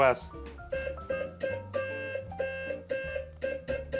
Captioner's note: beeping